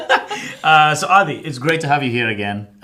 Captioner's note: laughing